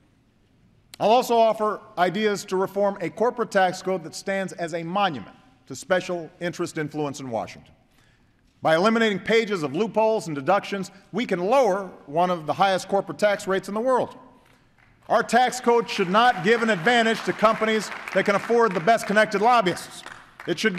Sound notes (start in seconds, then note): 15.7 applause